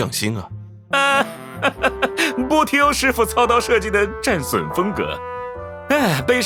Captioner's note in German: seufz